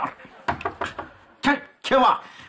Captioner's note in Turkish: Kapı vurulması